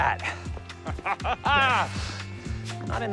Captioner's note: laughing